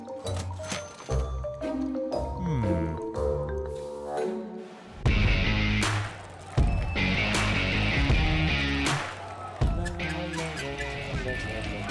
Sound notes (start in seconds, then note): 4.9 crowd chanting; 8.7 lullaby music